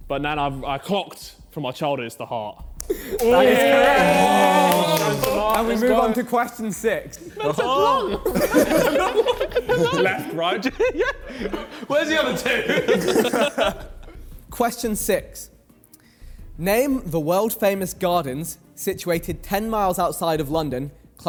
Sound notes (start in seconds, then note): 2.9 men cheering; 7.1 men laughing